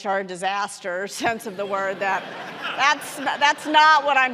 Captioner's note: audience laughing